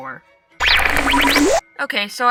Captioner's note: static noises